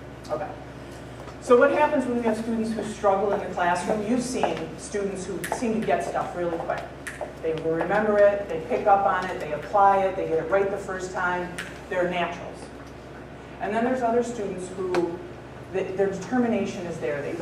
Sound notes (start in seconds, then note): 7.0 snapping fingers